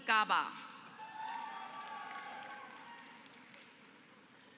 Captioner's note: applause